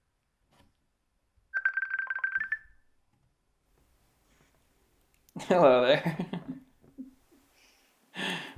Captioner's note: ringing